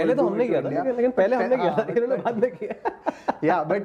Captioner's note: chuckles